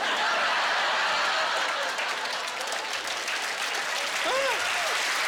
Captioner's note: laughter